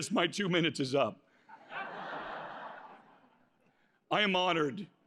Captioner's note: laughter